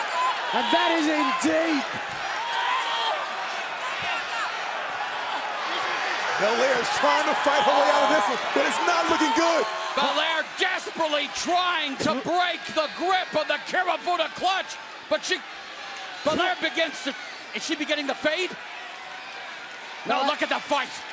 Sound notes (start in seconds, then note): 6.7 cheers and applause